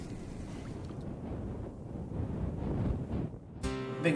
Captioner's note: wind blowing